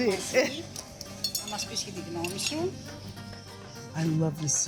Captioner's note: speaking greek